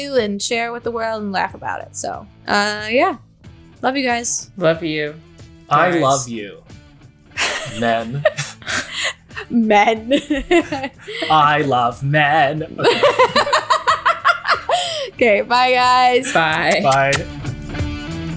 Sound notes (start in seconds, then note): 7.4 laughing